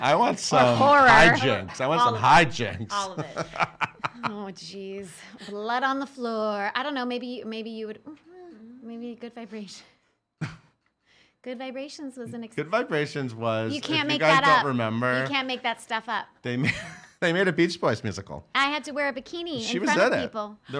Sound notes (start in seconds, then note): 10.3 laughing